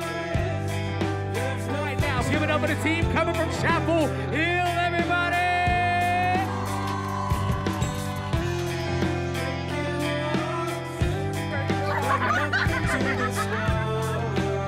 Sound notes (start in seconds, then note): 4.5 crowd cheers; 11.5 girls laugh